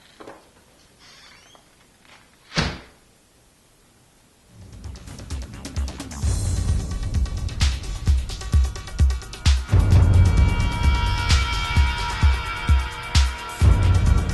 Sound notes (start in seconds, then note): 2.4 door slams